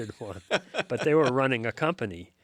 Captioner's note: laughs